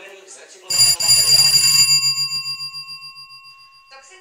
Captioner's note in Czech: Zvonek u dveří